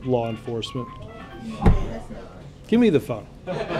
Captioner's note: cell phone rings